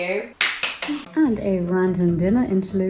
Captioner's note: clapping